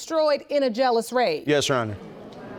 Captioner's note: audience murmuring